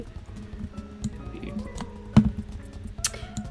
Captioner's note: quietly